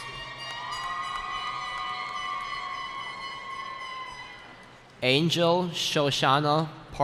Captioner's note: cheering